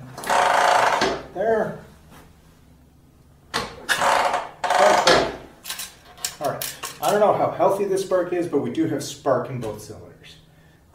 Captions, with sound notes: [Loud ratcheting noise] That's spark there. [Loud ratcheting noise] Spark there. Alright, I don't know how healthy the spark is, but we do have spark in both cylinders.